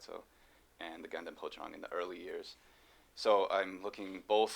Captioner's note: non-english speech